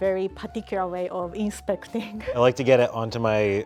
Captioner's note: laughs